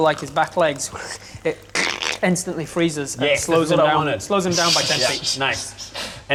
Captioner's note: creaks